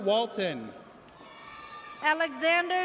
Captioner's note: audience cheers